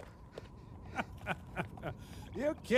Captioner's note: laughing